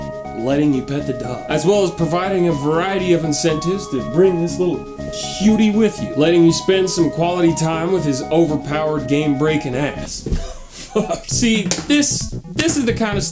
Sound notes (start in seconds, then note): 10.3 laughs